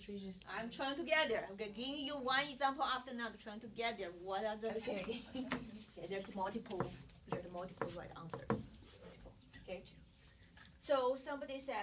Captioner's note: students murmur